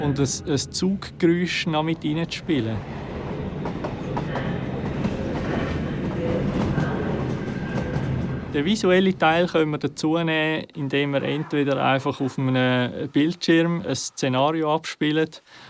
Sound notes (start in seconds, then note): 3.1 sound of a passing train and station announcement in the background